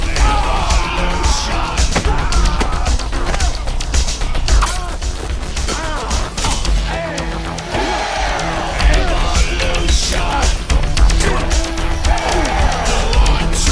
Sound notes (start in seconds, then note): 0.1 screaming; 6.1 grunting